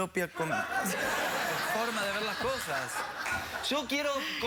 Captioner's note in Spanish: risas